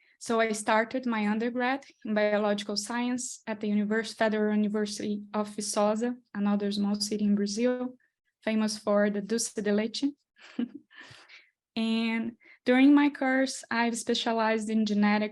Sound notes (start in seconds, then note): 10.4 chuckles